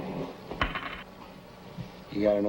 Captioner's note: coin clatters